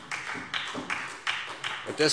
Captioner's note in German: Beifall SPD